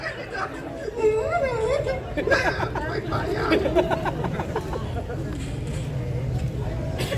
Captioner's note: laughing